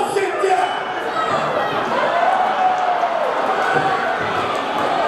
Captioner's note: audience cheering